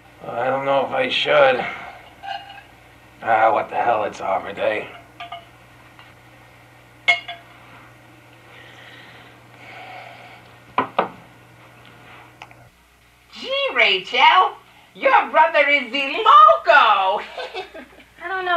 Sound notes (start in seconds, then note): 13.5 bad accent; 17.2 laughs